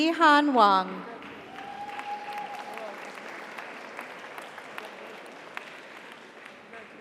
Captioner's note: audience applauds; audience cheers